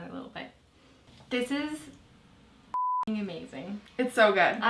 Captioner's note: beep